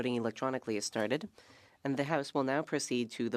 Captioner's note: speaking French